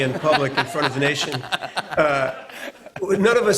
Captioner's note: laughter